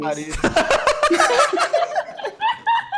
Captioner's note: laughs